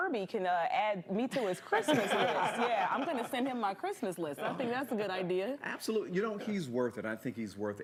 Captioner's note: laughter